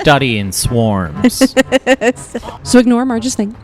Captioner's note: laughs